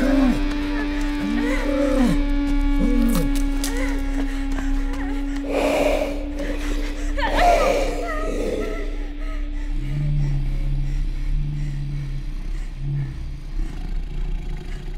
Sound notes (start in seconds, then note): 0.0 growls; 5.7 heavy breathing; 7.1 Shelley screams